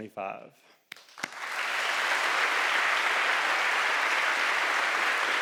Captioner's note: audience applauding